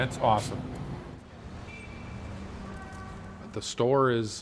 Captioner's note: traffic noise